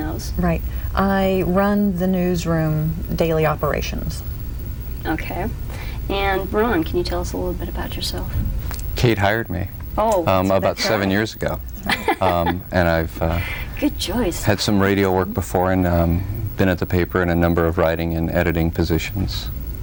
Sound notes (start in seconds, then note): 11.7 laughs